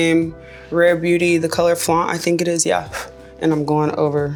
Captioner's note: blowing